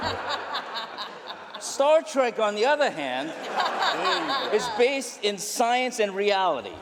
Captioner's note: laughter